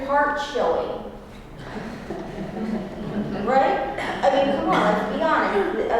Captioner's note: laugh